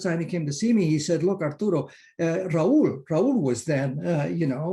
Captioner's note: in foreign language